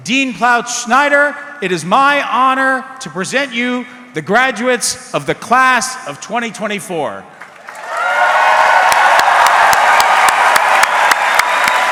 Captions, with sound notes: Dean Ploutz-Snyder, it is my honor to present you the graduates of the class of 2024. (audience cheering)